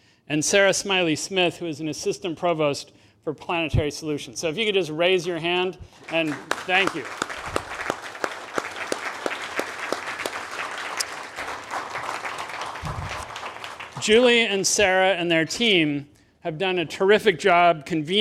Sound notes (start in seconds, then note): 5.9 attendees applaud